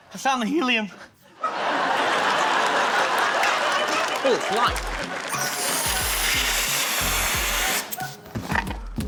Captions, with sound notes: - I found the helium. (LAUGHTER, APPLAUSE) Ooh, it's light. (HELIUM HISSES)